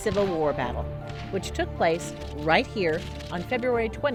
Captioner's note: gunfire